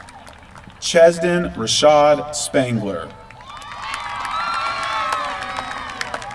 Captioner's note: applause